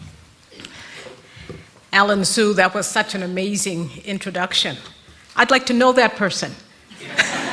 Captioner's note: rires de l'auditoire